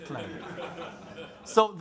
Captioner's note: crowd laughing